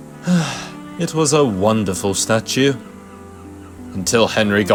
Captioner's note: sigh